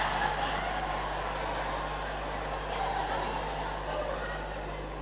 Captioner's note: applause